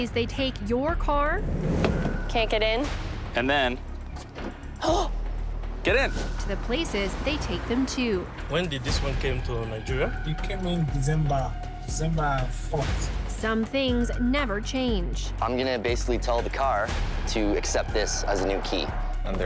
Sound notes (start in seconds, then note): 4.1 locks click; 5.0 gasps